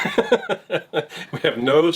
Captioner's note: laughs